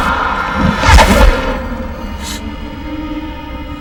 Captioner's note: gasps